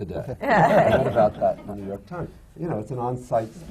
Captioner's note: laughter